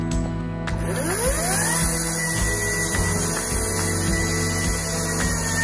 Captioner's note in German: Geräusch einer elektrischen Kettensäge